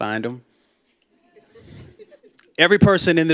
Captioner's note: laughter